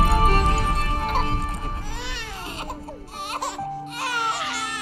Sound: baby cries; peaceful orchestral music

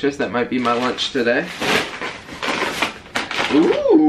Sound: plastic crinkling

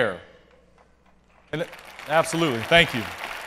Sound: applause

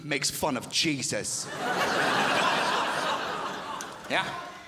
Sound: crowd laughs

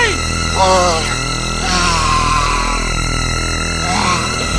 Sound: Jermaine growls

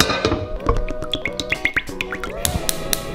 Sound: melodic hum

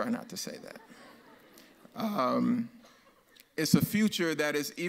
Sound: audience laughs

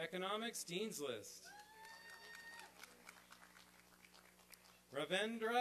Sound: applause and cheering

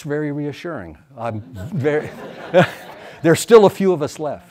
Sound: audience laughs

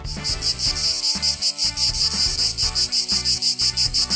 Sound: cicadas chirping

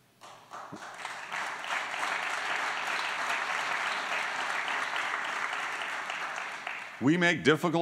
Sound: applause

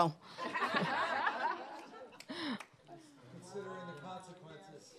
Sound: audience laughing

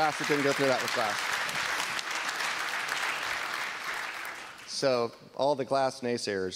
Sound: applause

